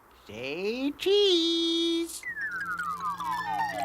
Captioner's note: beeping